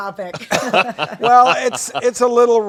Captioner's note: laughing